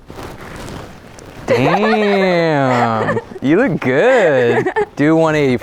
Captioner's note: laughs